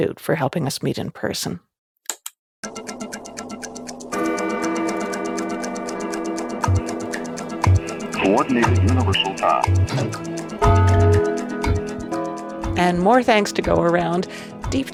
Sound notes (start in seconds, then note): 2.6 clock chiming; 8.2 radio crackling; 8.4 clock ticking and chiming